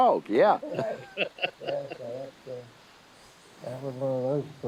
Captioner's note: both laughing